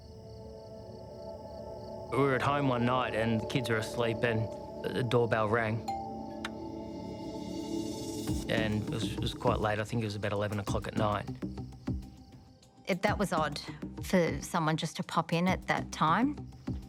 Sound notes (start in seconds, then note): 0.2 insects chirping; 5.8 door bell ringing